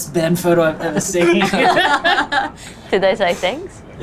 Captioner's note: all laugh